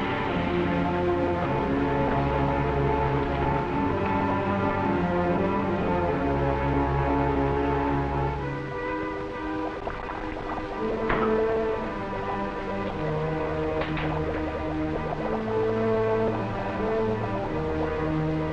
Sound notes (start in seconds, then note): 9.3 liquid bubbling; 13.0 suspenseful orchestral music